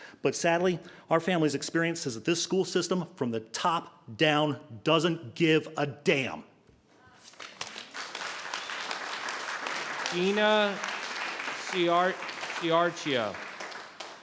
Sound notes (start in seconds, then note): 7.2 applauding